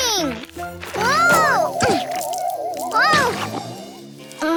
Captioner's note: grunts